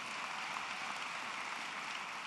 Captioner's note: applause